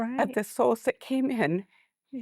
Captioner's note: weeping